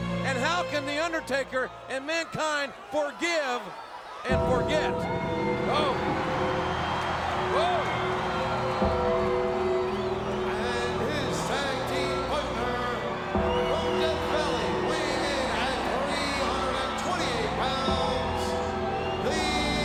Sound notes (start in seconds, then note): 5.2 suspenseful music; 8.9 audience cheering